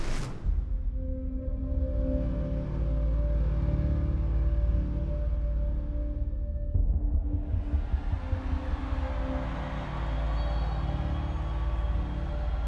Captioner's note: crowd cheering